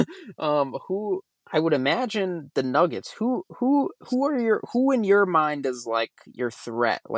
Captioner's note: laughs